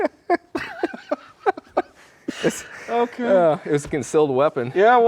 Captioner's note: both laughing